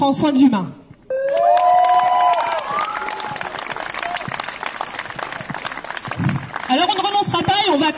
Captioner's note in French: applaudissements